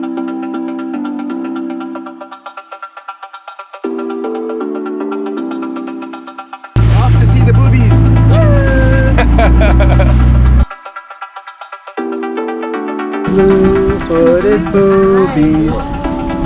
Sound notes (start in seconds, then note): 0.3 upbeat techno music; 8.4 laughing